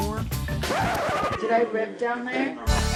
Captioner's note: record scratches